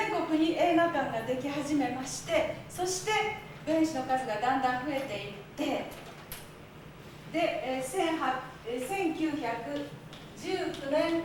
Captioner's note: speaking Japanes